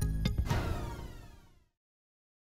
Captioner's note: phaser sound